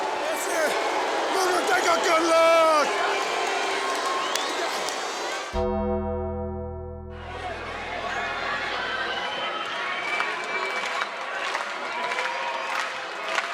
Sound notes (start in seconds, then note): 3.2 hands clap; 5.5 dramatic music; 7.1 crowd cheering; 7.5 crowd clapping